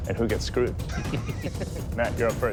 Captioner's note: laughter